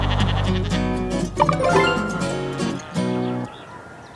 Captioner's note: notification